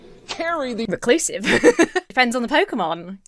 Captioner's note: laughs